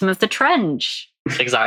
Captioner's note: laughing